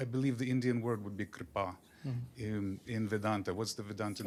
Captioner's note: hindi